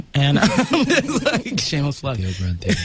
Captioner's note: all laugh